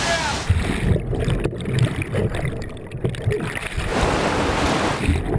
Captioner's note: water rushing